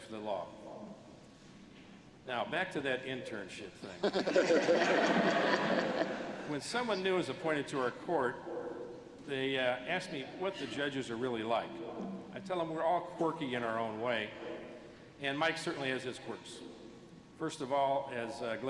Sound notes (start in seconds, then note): 4.0 laughter